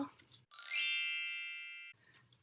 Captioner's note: bell sound